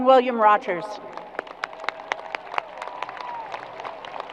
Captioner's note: crowd applause